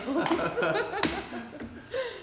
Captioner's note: laughing